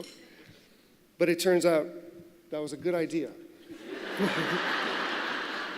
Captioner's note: laughter